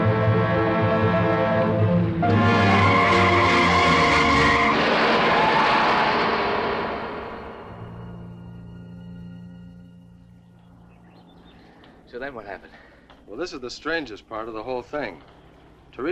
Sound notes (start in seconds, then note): 2.3 tires screeching; 4.2 metal crashing